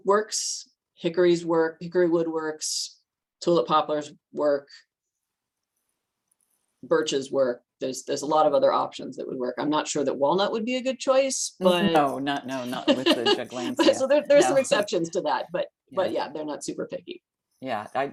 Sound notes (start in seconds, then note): 12.5 laughs